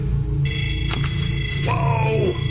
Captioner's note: device alerting